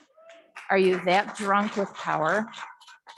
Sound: audience clapping

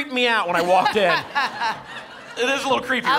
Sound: laughter

